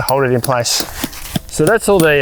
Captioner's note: metallic hammering